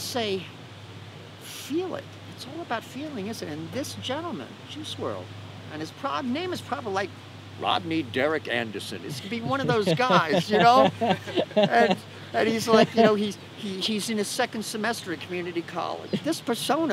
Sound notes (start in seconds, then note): 10.9 laughter